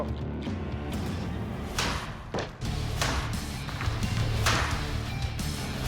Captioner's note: chopping